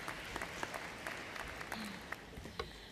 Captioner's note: applause